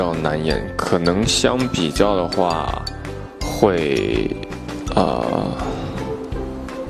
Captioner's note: sighs